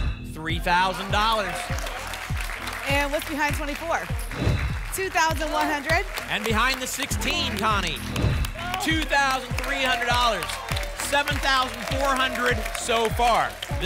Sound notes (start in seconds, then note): 1.6 applause and cheering; 4.3 whoosh; 8.1 whoosh